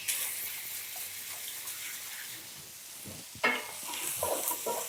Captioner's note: pan sizzling